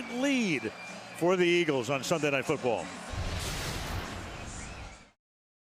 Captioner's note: crowd chanting